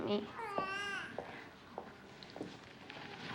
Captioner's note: baby crying